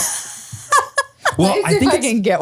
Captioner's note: laughs